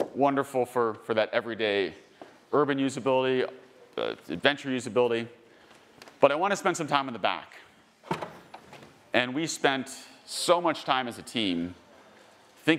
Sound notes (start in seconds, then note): 8.1 car door clicks